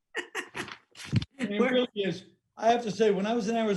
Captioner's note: laughing; paper rustling